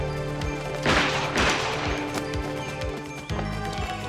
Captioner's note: gun firing